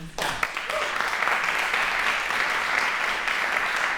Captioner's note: applause